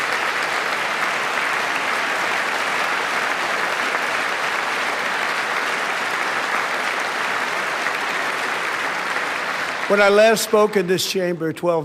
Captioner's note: applause